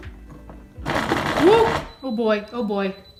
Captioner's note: loud mechanical noises